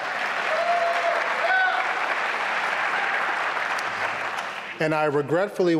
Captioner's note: applause and cheering